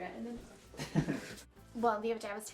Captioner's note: laughing